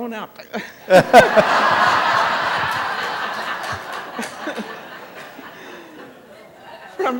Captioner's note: laughter